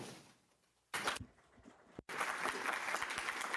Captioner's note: applause